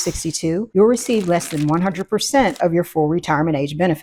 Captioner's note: bubble popping; paper shuffling